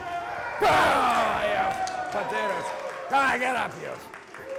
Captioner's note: wrestler grunts